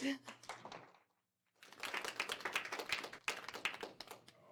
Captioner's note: applause